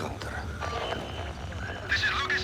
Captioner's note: whistle